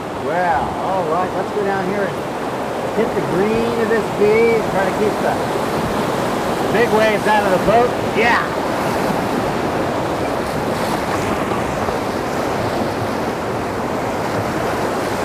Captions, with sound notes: wow! Alright let's go down here hit the green [Rushing water] keep the big waves out of the boat. Ya! [Rushing Water Loud.]